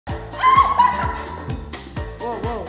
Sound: screaming

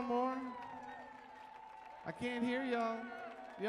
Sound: crowd cheering softly

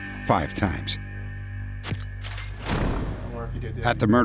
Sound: cameras snapping

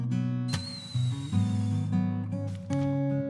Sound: whistle blows

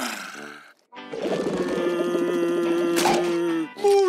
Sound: gulps, sighs; grumbles

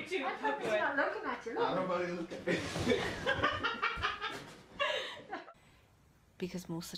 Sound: laughing

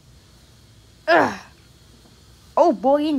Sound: grunts

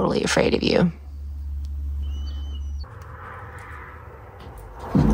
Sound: birds chirping; dramatic music

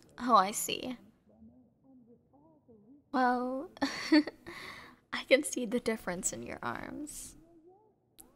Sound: soft laugh

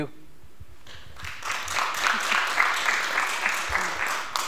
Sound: applause

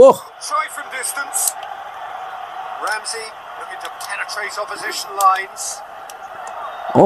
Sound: applause

